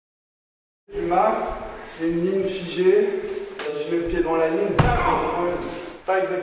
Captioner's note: baam